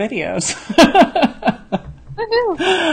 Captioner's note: laughs